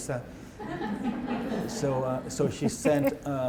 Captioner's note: laughter